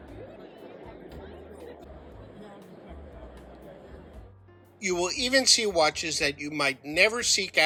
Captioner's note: crowd noise